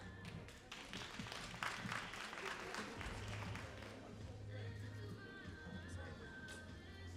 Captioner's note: all applauding